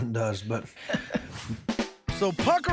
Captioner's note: chuckles